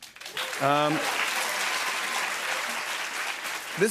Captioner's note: applause